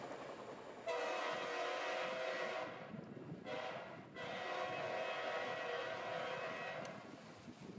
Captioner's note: train horn; train horn